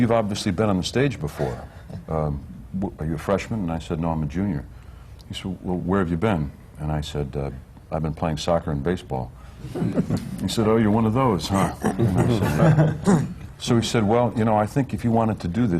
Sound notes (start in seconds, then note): 9.6 laughter